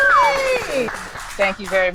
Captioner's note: people cheering